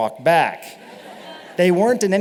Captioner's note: laughter